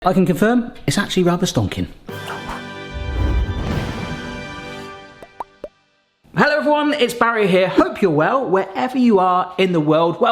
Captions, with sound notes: - I can confirm, it's actually rather stonking. (dramatic music) (text swishing and popping) Hello everyone, it's Barry here. Hope you're well, wherever you are in the world.